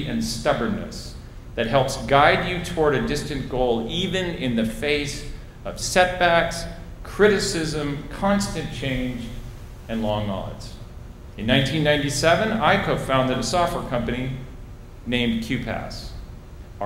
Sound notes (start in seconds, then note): none